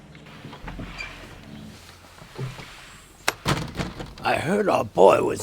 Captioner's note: door creaks